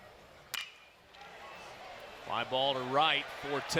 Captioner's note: ball hitting bat